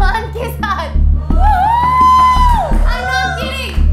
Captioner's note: Hooting